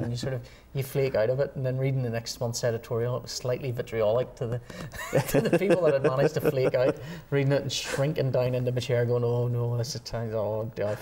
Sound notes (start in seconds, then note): 4.9 laughter